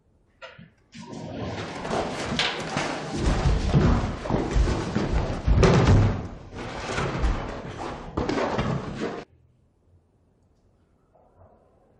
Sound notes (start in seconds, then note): 0.6 shuffling